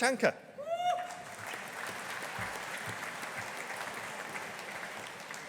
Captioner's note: audience applauding